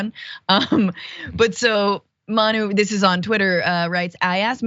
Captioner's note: laugh